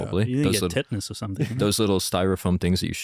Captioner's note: laughs